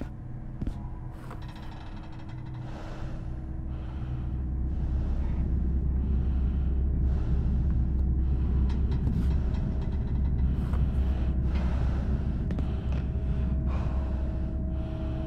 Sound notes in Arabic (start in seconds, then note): 2.4 تنفس ثقيل; 2.4 صرير معدني